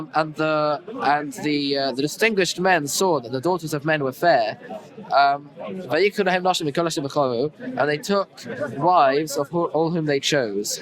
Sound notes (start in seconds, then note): 4.7 Hebrew